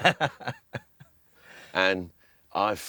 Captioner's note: laughs